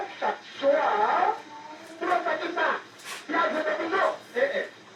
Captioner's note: radio playing in background